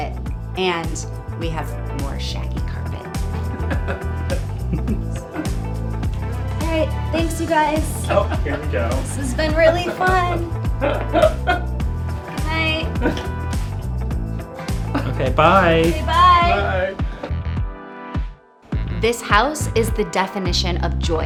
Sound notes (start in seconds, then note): 3.2 upbeat music; 10.7 laughing; 13.8 upbeat music